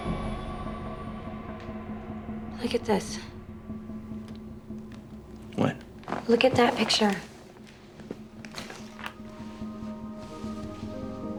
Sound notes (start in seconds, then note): none